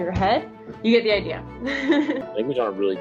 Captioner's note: laughs